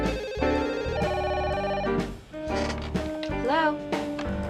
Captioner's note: telephone rings